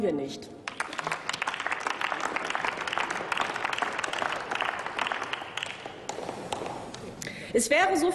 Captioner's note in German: Applaus